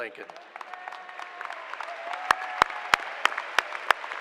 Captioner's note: applause